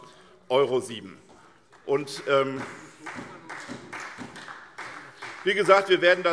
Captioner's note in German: Beifall SPD